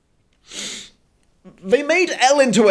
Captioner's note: sniffing